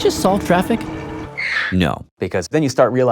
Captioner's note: tire screech